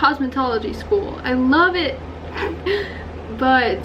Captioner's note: laughs